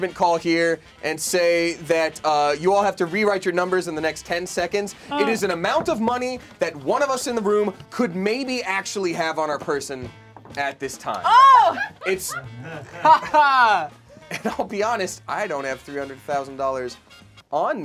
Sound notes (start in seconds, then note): 11.2 loud yelling; 12.9 laughing